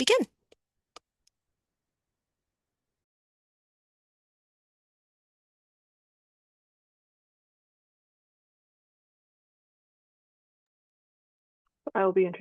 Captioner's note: silence